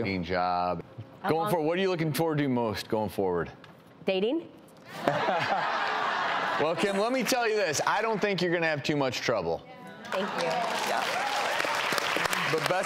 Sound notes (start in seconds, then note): 4.9 laughter; 10.1 applause and cheering